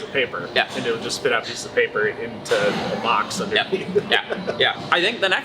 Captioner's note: chuckles